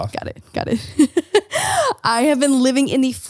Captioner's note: laughing